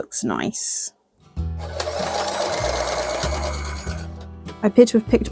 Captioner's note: sewing machine noises